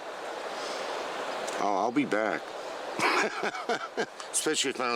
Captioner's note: laughs